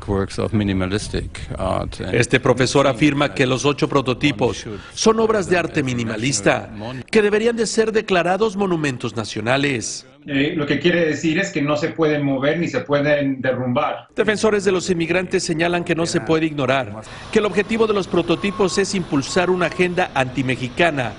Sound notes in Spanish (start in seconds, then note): 6.5 habla en ingés